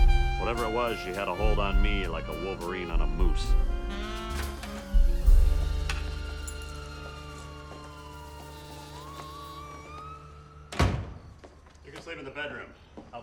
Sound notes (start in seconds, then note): 5.1 sirens blaring; 6.0 keys jangling; 9.7 investigative jazz music ends